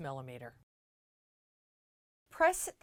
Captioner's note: no Sound Present